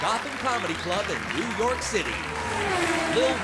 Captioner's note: car whirring